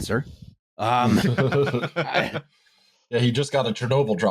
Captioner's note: laughter